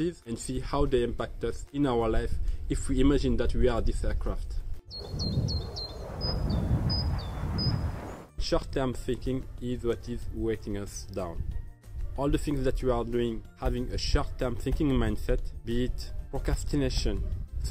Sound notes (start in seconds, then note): 4.9 birds singing; 4.9 plane whooshing